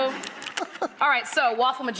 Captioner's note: Rachael laughs